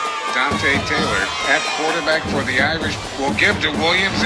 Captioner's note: radio Announcer